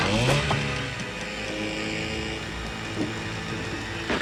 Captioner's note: motor whirring; arrow thudding